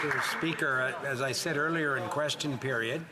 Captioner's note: some Applause